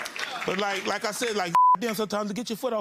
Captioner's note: beeps